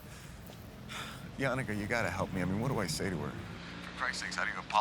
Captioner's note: sighs